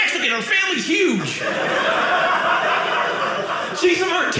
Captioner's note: audience laughing